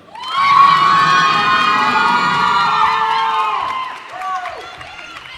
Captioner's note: cheers and applause